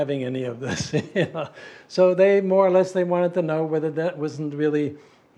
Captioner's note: laugh